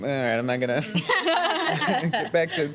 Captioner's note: laughing